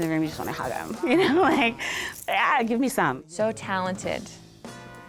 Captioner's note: laughs